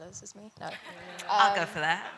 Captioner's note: laughs